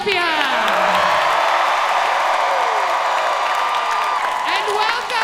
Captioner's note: audience cheering loudly